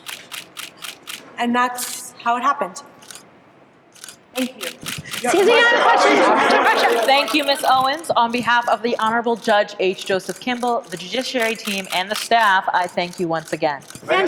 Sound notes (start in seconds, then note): 0.1 camera shutter clicks; 5.5 reporters clammoring